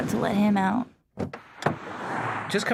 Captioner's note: opening door